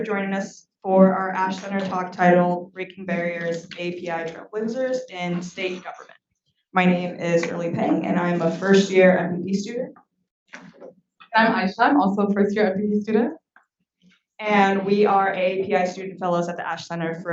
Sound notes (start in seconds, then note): none